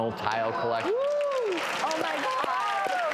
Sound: applause

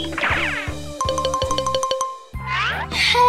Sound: sliding whistle sound effect; xylophone sound effect

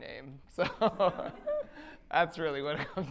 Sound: laughs

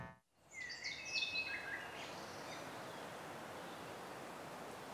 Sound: birds chirping

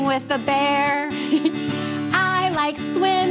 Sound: chuckles

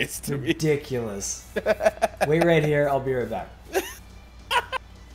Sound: laugh

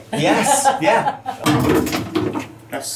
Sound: banging noise from ice machine

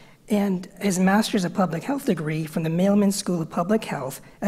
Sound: none

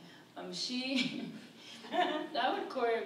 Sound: laughs

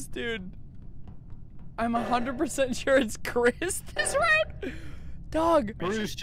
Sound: laughing

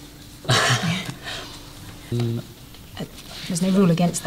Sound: laughs

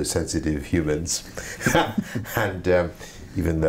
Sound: laugh

